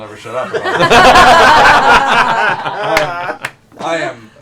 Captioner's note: laughter